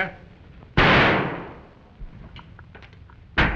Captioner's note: gunshot